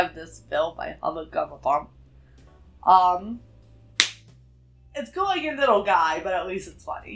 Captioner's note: slap sound